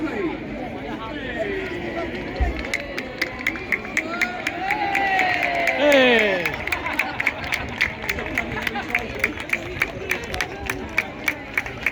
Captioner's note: applause and cheering